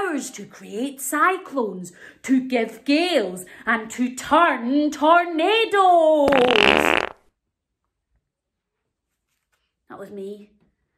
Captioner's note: loud fart noise